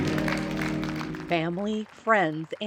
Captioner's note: applause